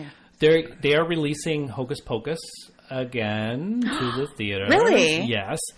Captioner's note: gasps